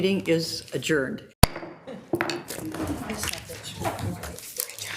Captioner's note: gavel taps